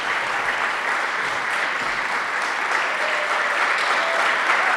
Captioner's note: audience applauds